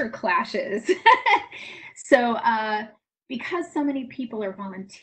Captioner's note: laughs